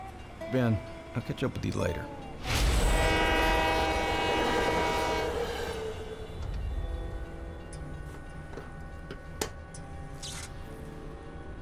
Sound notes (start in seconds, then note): 5.6 train horn; 9.8 snapping, short-circuiting